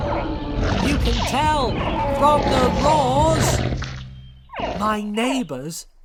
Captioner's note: dinosaurs roar and squeak